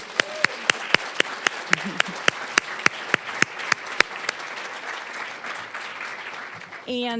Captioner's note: applause